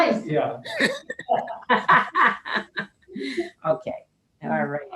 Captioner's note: laughs